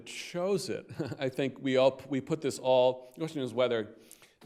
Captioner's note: chuckles